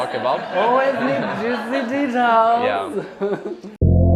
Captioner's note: laughter